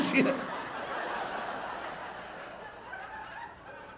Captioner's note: audience laughing